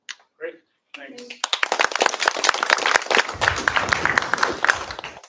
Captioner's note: applause